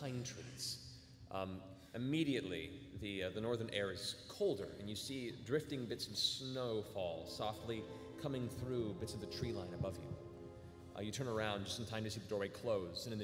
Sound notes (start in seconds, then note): none